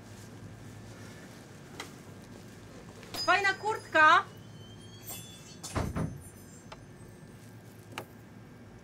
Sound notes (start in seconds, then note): 5.6 door closes